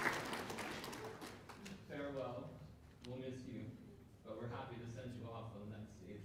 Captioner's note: applause